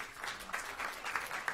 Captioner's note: applause